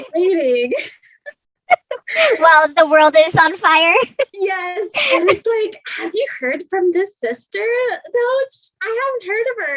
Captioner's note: laughs